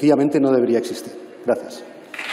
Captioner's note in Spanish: Aplausos